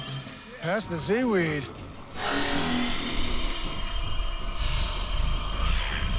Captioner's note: electric swooshing, trilling